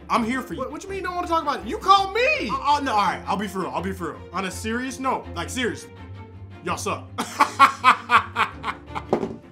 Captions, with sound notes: I'm here for you. What you mean you don't wanna talk about it? You called me! Oh no, all right, I'll be for real. I'll be for real. On a serious note, like seriously, y'all suck. (laughs)